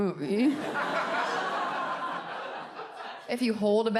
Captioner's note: audience laughs